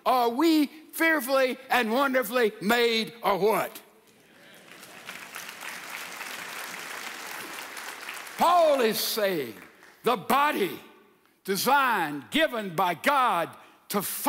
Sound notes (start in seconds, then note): 4.3 audience applauds